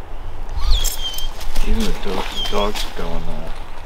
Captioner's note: Chewie whines